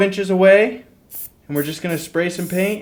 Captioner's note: spritzing